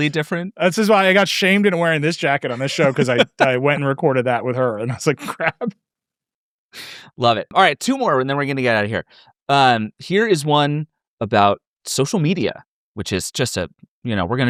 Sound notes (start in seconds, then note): 5.9 laughing